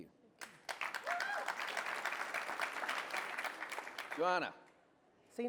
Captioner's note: applause